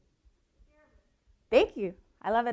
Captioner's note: faintly speaking